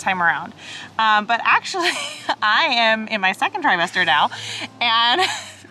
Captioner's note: chuckles